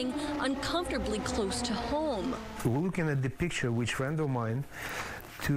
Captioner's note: sirens